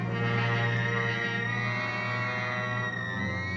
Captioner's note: electronic buzzing